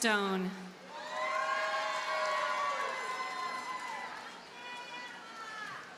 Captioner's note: audience cheers and applauds